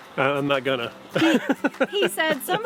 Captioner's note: laughs